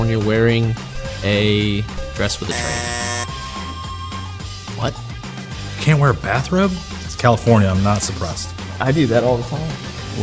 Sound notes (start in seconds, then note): 2.4 buzzer buzzing; 2.8 upbeat music